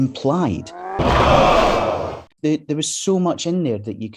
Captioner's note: car crashes